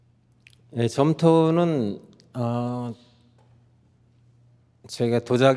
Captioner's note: speaking in Korean